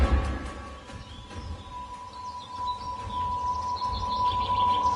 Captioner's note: birds chirping